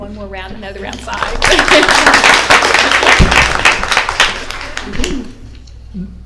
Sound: applause

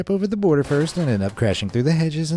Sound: crashing sound effect

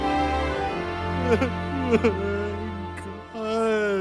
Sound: string music interlude; weeping

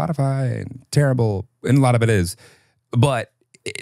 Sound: laughs

